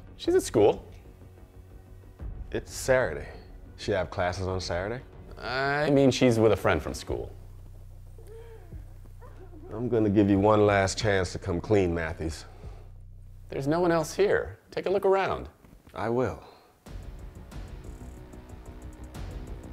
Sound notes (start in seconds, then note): 8.2 Mia crying; 16.8 intense music